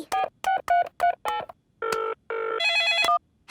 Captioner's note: beeping; phone ringing